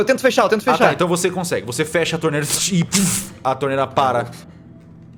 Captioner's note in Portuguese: puff